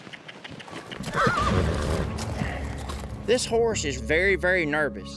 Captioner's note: horse neighs